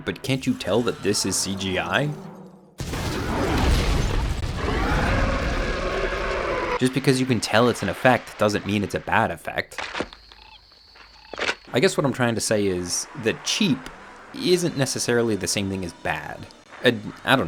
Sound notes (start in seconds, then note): 2.8 helicopter exploding; 4.4 dinosaur roaring